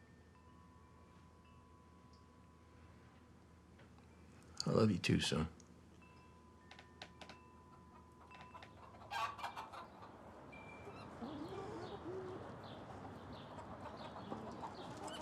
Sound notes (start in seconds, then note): 0.1 chimes softly clanging; 8.1 chickens clucking and squawking; 10.4 birds chirping